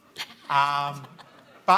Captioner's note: audience laughs